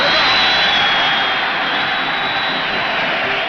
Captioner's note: crowd cheers